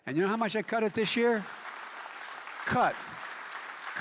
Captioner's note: applause